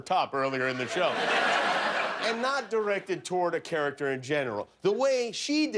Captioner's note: laughter